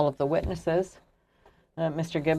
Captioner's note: speaking french